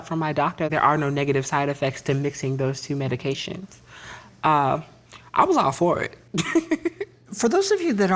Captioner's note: laughs